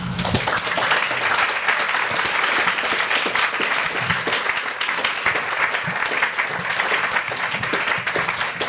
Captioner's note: audience applauds